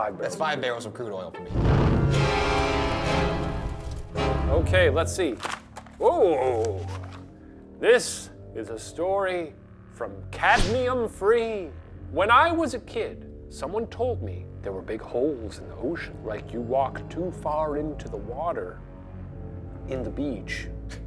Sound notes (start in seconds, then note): 1.3 dramatic music; 6.3 paper rustles